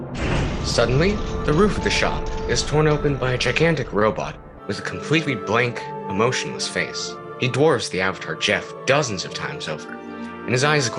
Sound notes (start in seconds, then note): 0.0 over sounds of utter destruction